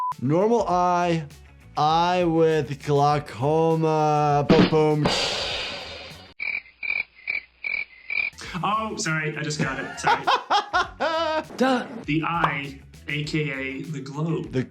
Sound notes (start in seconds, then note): 6.4 crickets chirping; 9.6 laughing